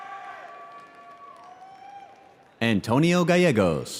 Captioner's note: audience cheering